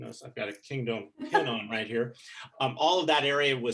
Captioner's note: chuckling